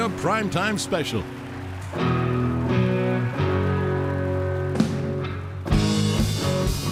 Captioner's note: audience applauding; upbeat rock music continues